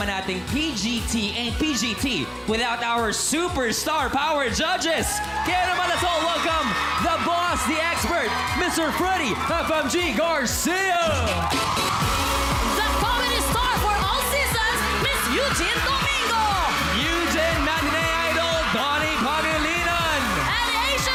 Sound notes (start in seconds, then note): 12.1 cheering